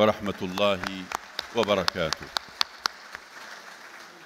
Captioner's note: audience clapping